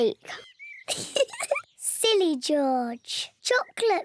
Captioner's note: laughs